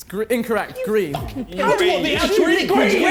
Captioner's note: contestants jeering